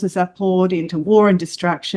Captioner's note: none